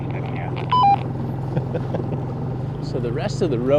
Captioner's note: chuckling